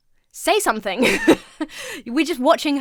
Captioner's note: laughs